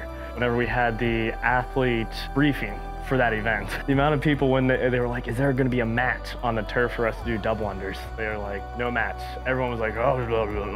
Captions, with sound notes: Whenever we had the athlete briefing for that event, the amount of people when they... They were like, ‘Is there going to be a mat on the turf for us to do double-unders?’ They were like, ‘No mats.’ Everyone was like, ‘[Grumbles]’